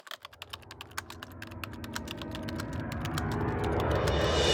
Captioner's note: typing